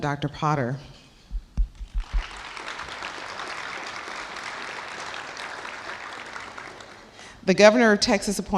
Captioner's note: applause